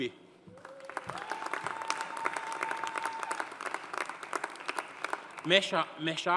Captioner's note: audience cheering; audience applauding